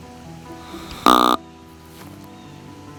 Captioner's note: sound of grunt call, louder